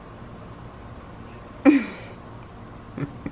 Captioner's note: laughs